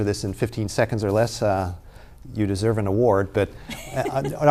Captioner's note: laughing